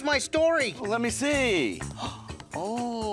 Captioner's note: gasping